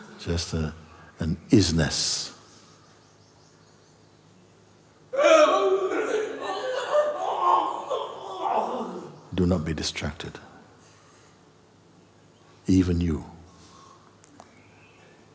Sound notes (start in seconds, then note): 5.2 loud wailing continues